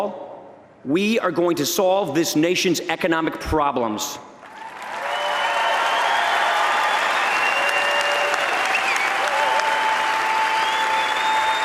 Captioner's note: applause